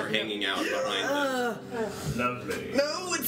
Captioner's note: sounds of disgust